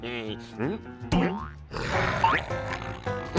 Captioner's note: snarling